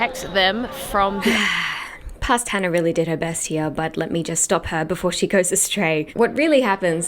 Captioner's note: sigh